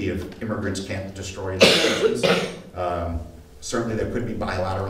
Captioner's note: audience coughing